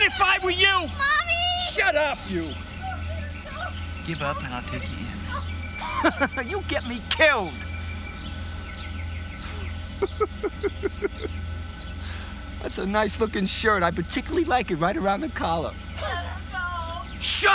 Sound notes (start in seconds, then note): 9.3 laughs